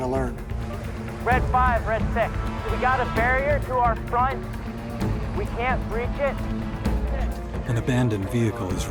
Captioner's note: marine on radio; voiceover